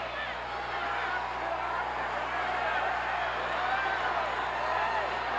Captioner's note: crowd cheers